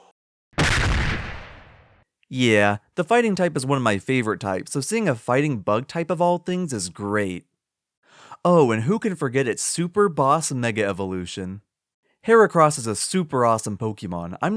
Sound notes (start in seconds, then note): 0.6 smack